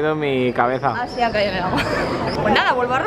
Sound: laughs

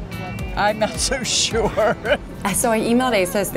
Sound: laughs

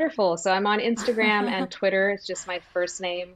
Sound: laughs

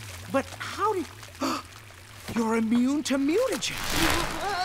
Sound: gasping

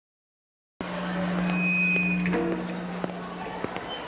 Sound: mic feedback

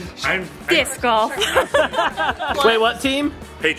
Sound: laughing

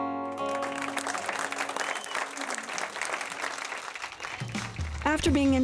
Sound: applause

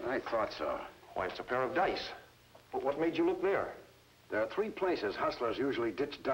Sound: none

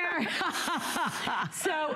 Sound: laughter

